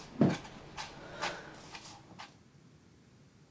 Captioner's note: dicing vegetables